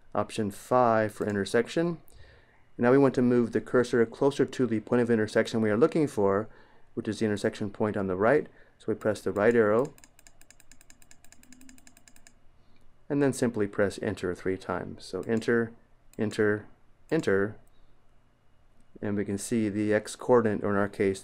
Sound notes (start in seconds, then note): 9.8 clicking